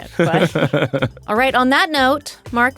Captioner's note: laughing